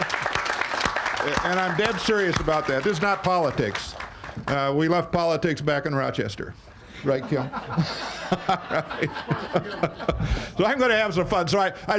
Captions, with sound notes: (all applauding) And I'm dead serious about that, this is not politics. We left politics back in Rochester, right Kim? (all laughing)